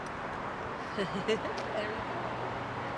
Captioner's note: laughs